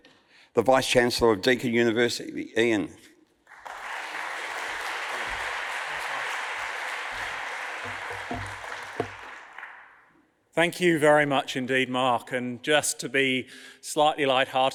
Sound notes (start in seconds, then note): 3.5 audience applauds